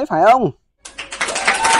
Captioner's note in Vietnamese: Vỗ tay